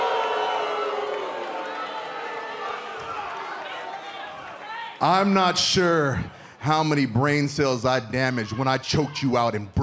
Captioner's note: cheers and boos